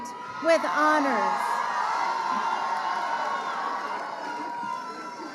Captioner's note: crowd cheering